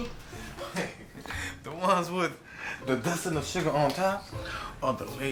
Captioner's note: chuckles